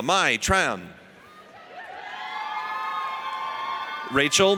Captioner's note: audience cheers